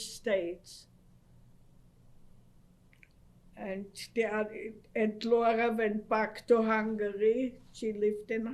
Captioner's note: pauses for 3 seconds